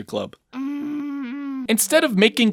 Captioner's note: MONIKA grunts